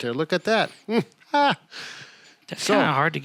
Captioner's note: laughs